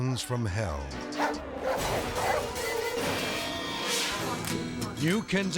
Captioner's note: intense music; dogs barking; gentle guitar music